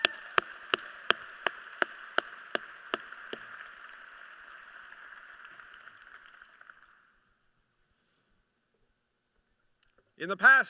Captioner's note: applause